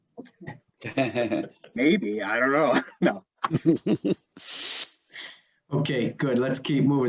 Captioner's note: all laughing